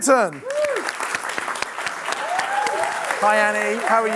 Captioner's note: audience clapping